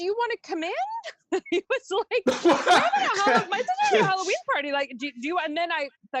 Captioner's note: laughing